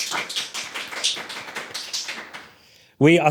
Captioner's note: audience clapping